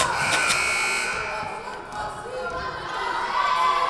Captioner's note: whistle blowing; buzzer buzzing